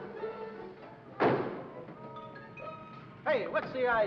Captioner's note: car door closes